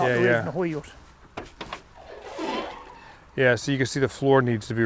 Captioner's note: door creaking